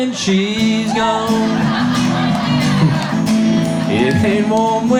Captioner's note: audience laughs